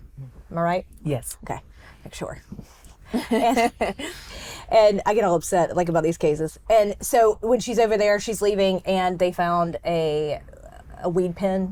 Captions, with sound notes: Am I right? - Yes. - Okay. Making sure. (both laugh) And I get all upset about these cases. And so when she's over there, she's leaving and they found a weed pen-